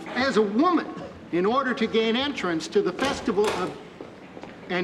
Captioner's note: door closes